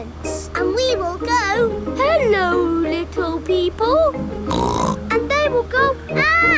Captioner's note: snorts